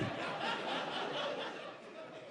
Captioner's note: audience laughing